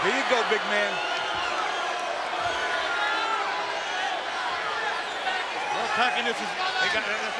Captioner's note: applause